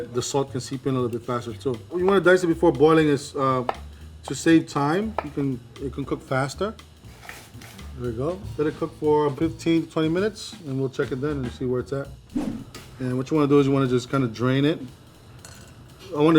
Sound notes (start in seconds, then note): 7.0 potatoes splashing